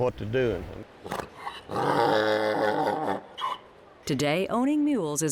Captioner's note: braying Mule